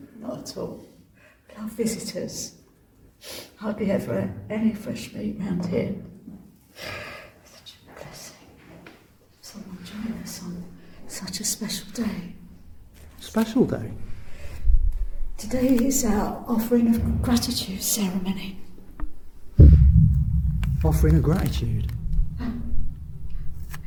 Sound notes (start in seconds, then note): 3.5 sniff; 8.1 whispers to self